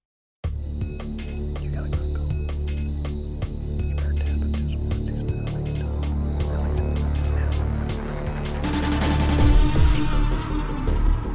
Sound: whispering

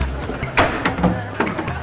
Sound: clattering

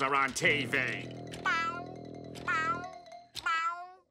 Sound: meowing

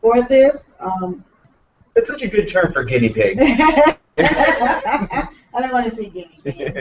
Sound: laughter

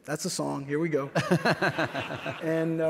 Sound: laughs

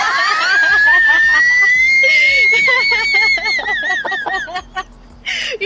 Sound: tea kettle wheeze laughing that kills me

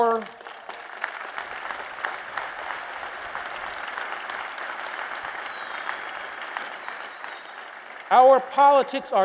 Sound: applause

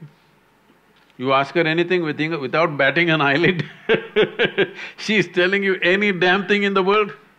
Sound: laughs

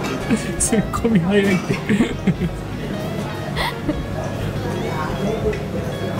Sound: laughs

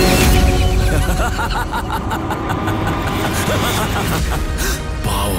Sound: villainous laughter

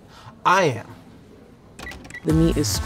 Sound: till beeps

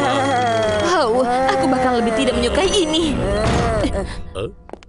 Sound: breathes heavily

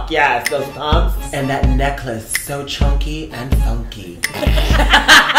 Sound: group laughter

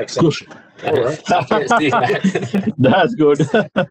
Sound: laughter

